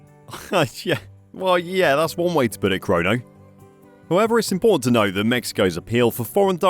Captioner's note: laughs